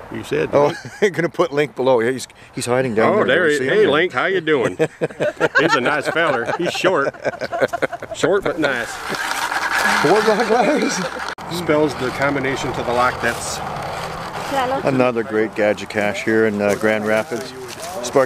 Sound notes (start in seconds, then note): 4.6 laughing; 8.6 grinding sound